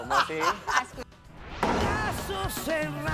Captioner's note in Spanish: Risas